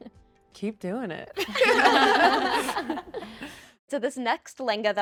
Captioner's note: group laughing